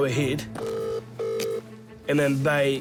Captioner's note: ringing tone